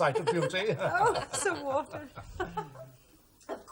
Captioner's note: all chuckle